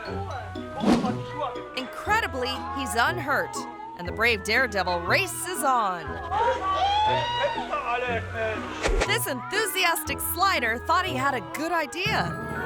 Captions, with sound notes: Incredibly, he's unhurt, and the brave daredevil races on. (all speaking in foreign language) - This enthusiastic slider thought he had a good idea,